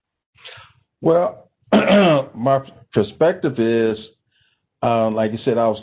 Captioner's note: clears throat